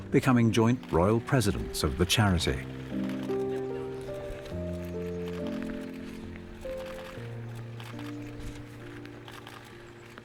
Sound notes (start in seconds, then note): 3.7 cameras shuttering; 3.7 somber music